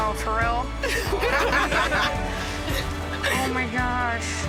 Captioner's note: group laughing